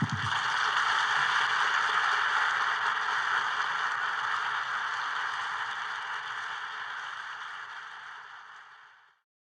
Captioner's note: applause